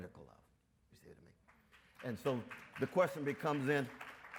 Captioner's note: audience members clap